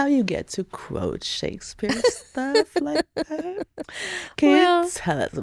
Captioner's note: laughing